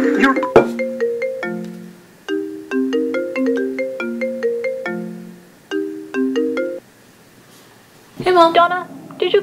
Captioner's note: phone rings